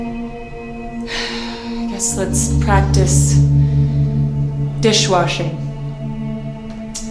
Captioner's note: sighs